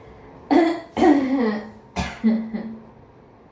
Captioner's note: clears throat